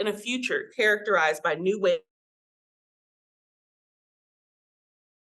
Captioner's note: audio cuts out